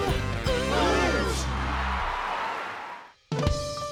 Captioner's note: cheering and applause